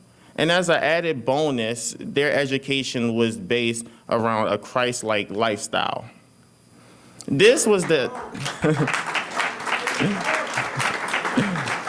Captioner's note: applause